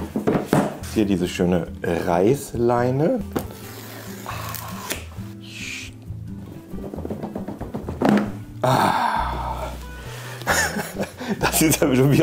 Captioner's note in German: Lachen